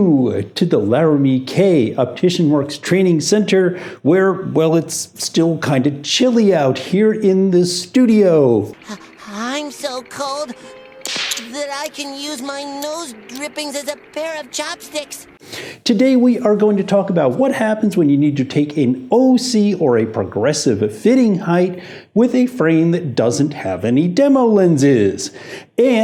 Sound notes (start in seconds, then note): 10.9 teeth chattering; 11.0 icicles snapping